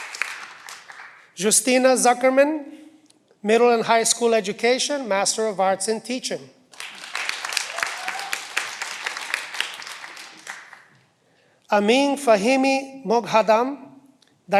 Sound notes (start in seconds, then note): 6.9 cheering